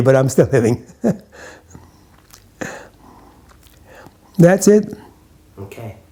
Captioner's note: laughs